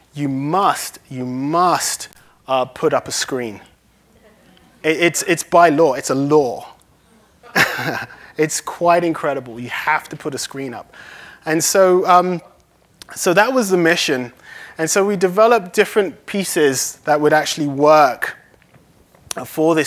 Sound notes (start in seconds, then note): 4.6 laughter; 7.2 laughs